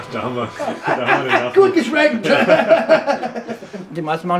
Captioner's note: laughs